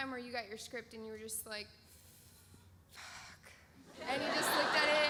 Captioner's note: inhales